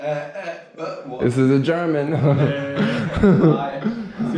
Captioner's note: laughs